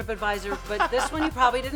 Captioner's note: laughter